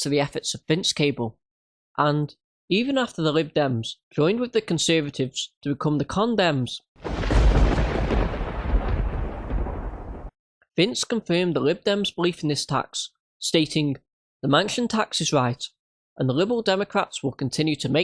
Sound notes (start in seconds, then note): 7.0 sound effect